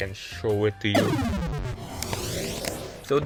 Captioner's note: death sound